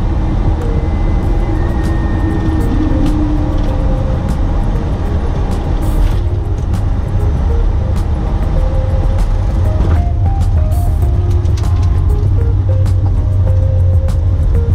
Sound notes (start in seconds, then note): 10.2 aeroplane touches down; 12.1 jazz music